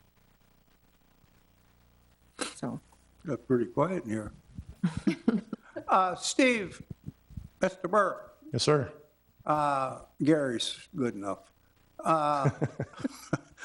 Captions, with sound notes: Got pretty quiet in here. (all chuckling) Steve, Mr. Burr. Yes, sir. Gary is good enough. (chuckles)